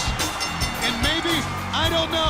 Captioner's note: bell ringing